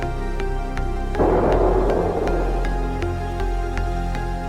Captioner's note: explosion booms